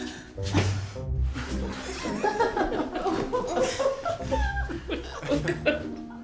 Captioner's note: everyone laughing